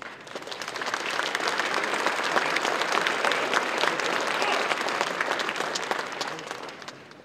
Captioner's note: applause